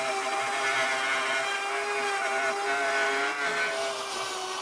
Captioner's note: power tool whizzing